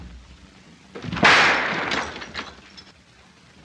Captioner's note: gunshot